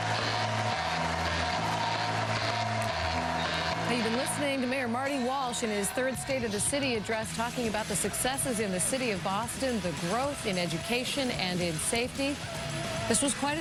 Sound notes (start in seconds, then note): 7.2 cheers and applause